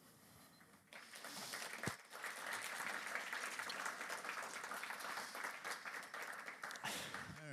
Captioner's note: applause